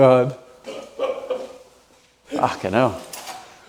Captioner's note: laughing